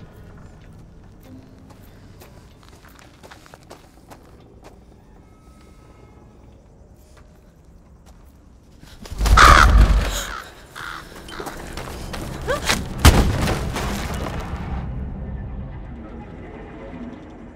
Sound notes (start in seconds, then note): 2.0 foot steps; 9.1 bird cawing; 12.9 crashing